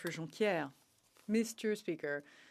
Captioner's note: speaking Alternate Language